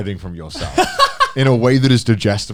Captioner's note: Joey laughing